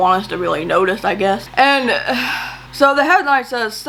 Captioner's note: sighs